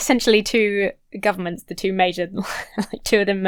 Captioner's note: laughs incredulously